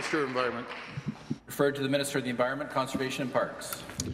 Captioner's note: applause